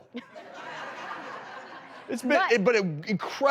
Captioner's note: audience laughs